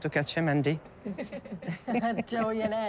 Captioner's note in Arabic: تضحكان